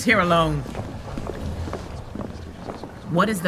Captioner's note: footfall receding; murmuring